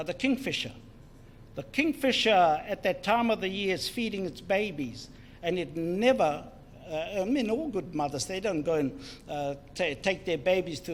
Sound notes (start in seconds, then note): none